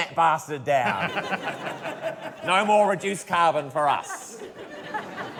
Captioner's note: laughter